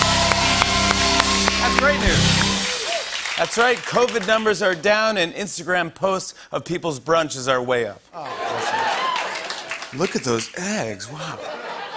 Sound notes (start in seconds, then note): 8.3 applause